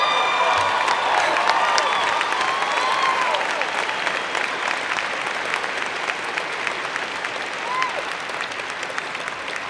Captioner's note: cheers and Applause